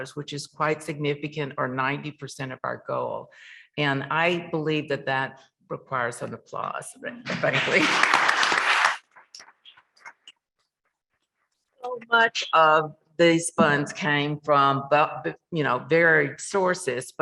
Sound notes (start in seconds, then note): 7.4 members clapping